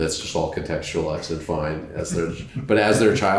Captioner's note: laughter